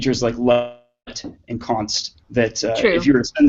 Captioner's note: speaking off microphone